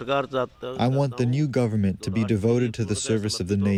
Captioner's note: through translator